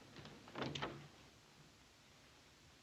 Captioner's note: door opening